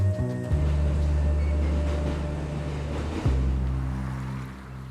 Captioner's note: train rumbling